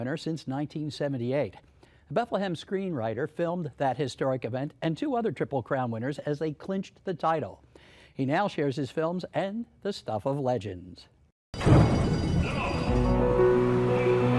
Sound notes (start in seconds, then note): 11.6 bells ringing